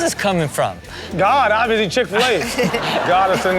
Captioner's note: Chanel laughing; laughs